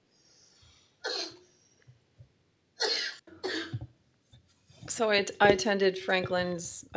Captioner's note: coughing